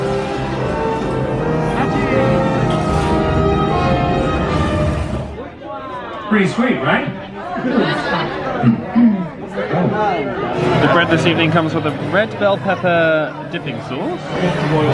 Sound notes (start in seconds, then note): 0.0 cinematic music playing; 8.6 clearing her throat